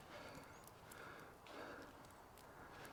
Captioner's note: panting